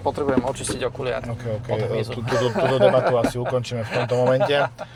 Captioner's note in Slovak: smiech